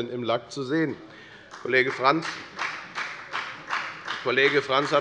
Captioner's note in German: Beifall bei der FDP